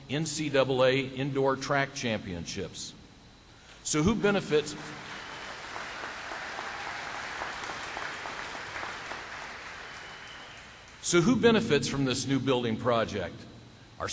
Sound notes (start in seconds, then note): 8.6 clapping